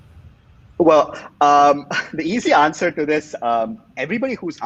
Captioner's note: chuckles